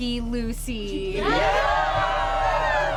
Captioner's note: crowd